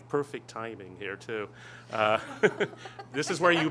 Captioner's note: laughter